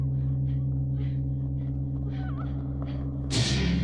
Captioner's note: girls panting